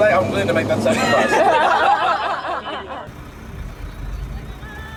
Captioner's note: cheerleaders laughing